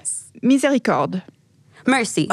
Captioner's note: speaks in foreign language